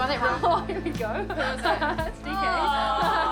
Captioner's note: laughs